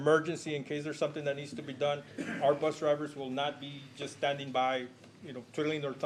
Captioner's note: clears throat